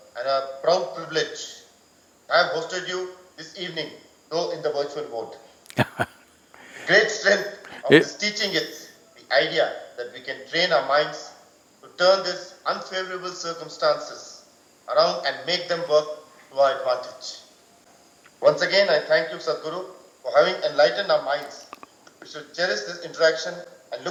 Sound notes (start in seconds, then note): 5.7 Sadhguru laughs